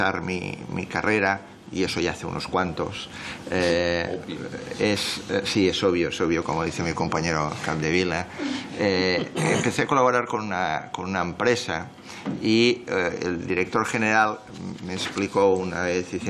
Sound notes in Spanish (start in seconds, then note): 9.1 Risas